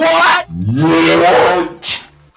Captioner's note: screams